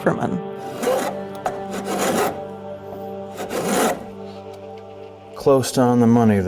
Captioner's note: woodworking tool scraping